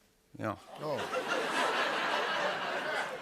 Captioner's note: laughter